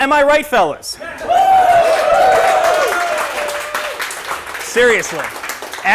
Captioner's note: applause